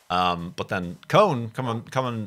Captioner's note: none